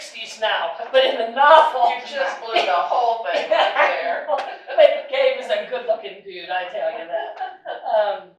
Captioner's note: audience comment and laughter